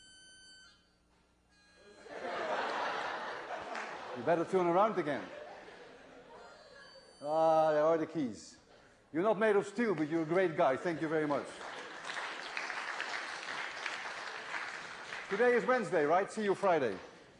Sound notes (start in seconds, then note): 0.0 beeping; 2.0 laughter; 6.4 beeping; 13.8 applause